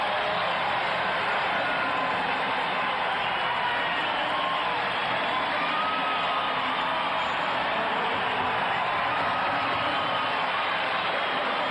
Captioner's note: cheers and applause